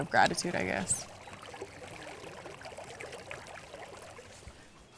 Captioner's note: water sloshing